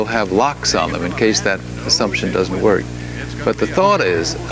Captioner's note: man speaks faintly